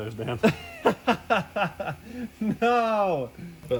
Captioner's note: laughs